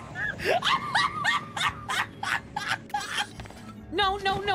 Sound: hysterical Laughter

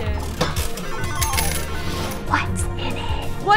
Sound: machine slot sounds

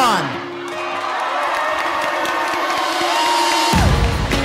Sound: crowd cheering; rhythmic music

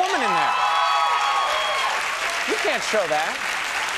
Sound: crowd cheers

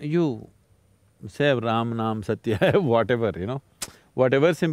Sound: laughs

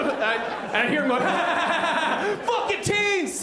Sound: mimics laughing

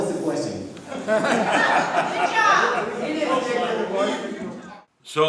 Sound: audience laughing

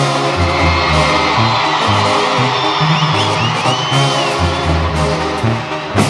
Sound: gritos

